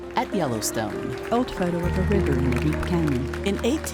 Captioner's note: crowd cheering